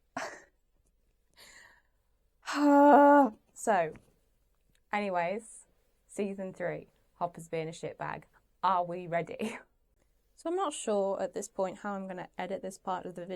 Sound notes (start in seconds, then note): 2.5 sighs